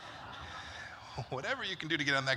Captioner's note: laughter